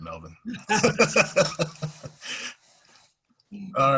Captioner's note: laughter